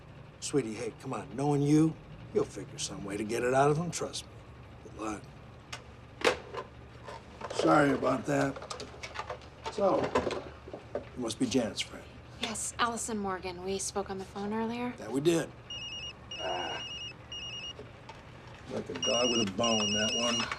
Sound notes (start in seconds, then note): 15.6 cell phone rings